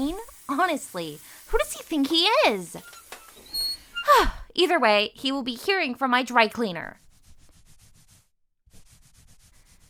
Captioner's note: snooty sigh